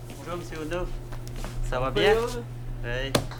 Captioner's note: french Language